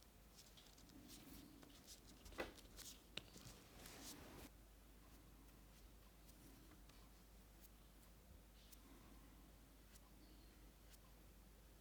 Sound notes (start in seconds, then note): 5.1 brush scuffing